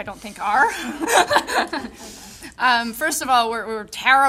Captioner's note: audience laughing